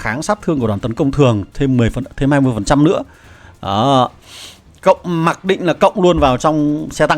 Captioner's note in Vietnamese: khịt mũi